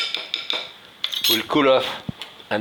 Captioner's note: utensils clanging